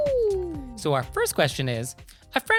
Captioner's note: higher-Pitched Howling